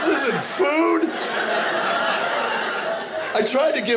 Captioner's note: audience laughing